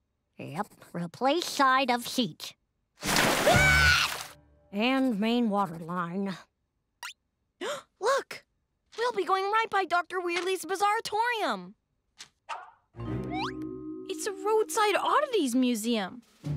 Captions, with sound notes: - Yep. "Replace side of seat." - [screams] - "And main water line." - [gasps] Look! We'll be going right by Dr. Weirdly's Bizzaritorium! It's a roadside oddities museum!